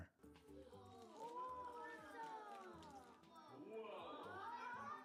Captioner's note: children chatter